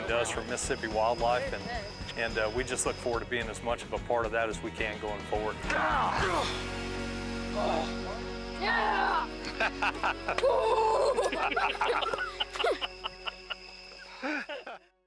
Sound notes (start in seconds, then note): 5.9 grunting; 8.6 grunting; 8.9 laughing; 10.5 grunting; 11.4 all laughing